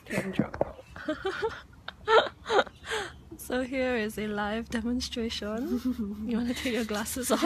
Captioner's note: laughs